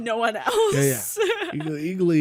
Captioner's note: laughs